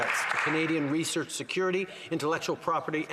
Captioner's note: some Applause